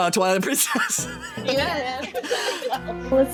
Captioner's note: wheeze Laugh